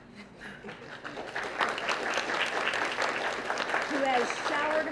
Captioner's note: applause